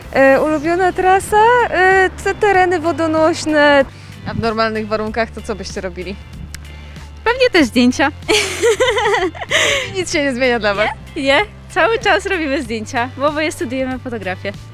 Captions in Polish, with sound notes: — Ulubiona trasa? To tereny wodonośne. — A w normalnych warunkach, to co byście robili? — Pewnie też zdjęcia. [śmiech] — Czyli nic się nie zmienia dla Was? — Nie, nie. Cały czas robimy zdjęcia, bo oboje studiujemy fotografię.